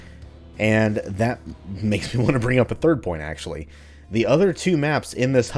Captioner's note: chuckles